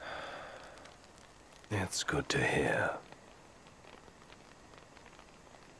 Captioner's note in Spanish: suspira